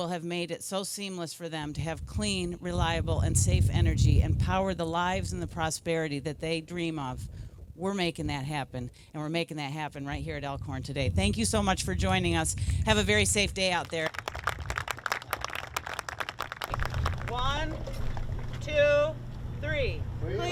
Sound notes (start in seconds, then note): 13.6 applause